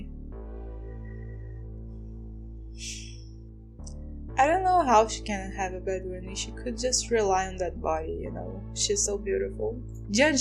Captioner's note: sigh